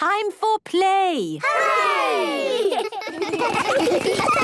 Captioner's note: laughter